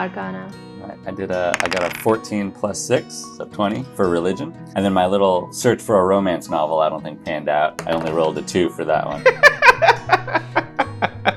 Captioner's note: laughter